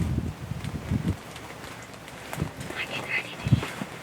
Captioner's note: whispering